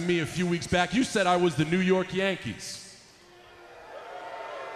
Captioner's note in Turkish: Alkışlar